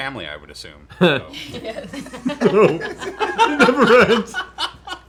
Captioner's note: laughter